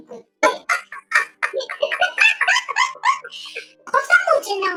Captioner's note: laughs